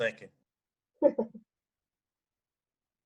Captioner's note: laughs